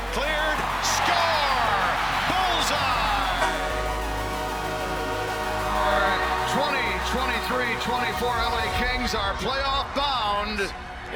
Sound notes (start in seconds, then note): 1.2 crowd cheering; 3.9 horn honking